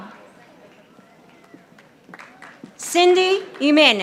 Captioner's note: audience applauding